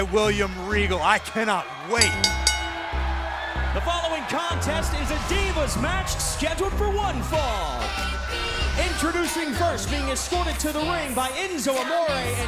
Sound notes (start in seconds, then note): 2.0 bell ringing